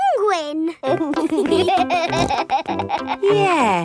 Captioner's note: laughing